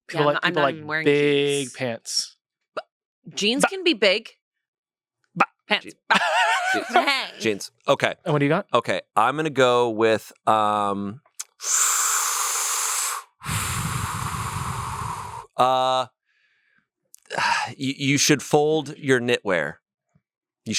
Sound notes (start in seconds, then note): 5.9 laughs; 11.6 breathes deeply; 17.2 sighs